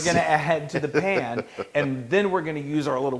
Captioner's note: laugh